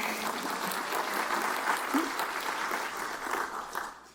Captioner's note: cheers and applause